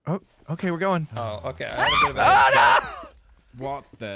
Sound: screams

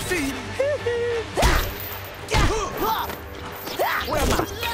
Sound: grunting

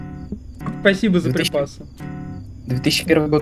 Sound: sarcstic

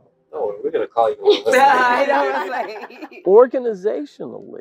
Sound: laugh

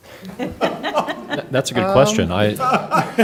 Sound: laughter

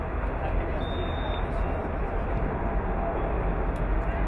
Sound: whistle blowing

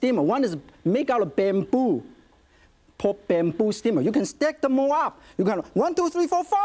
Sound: none

